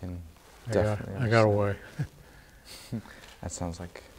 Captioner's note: chuckles